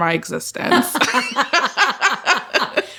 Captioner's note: laughter